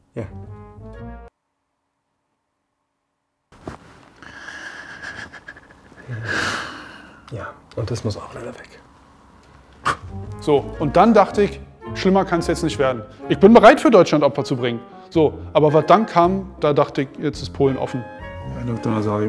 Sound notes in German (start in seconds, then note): 4.2 Schluchzen